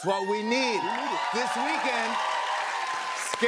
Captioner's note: cheers and applause